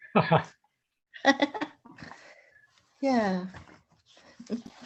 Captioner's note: both chuckle